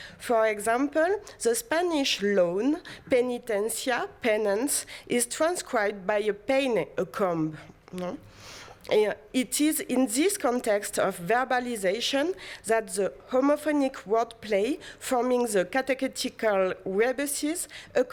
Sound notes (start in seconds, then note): 7.1 non-english